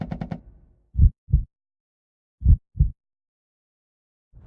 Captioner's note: heartbeat